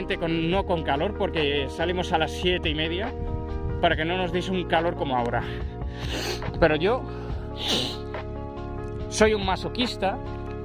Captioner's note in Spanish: resoplido